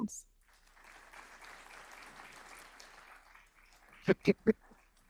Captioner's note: audience applauding